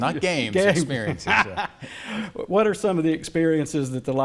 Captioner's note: laughs